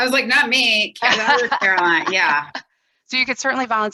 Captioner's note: laughing